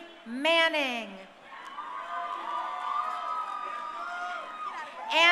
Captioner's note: crowd cheering